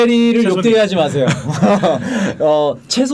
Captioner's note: laughing